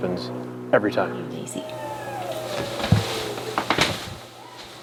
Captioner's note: Daisy whining